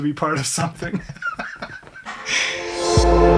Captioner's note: both laughing; upbeat music